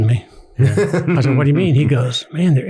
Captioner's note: everyone laughs